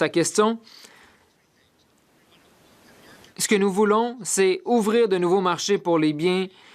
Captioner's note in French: voix de l'interprète